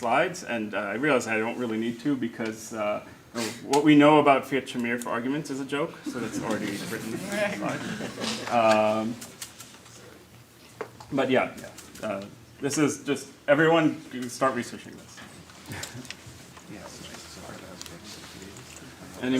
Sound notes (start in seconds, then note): 7.4 laughter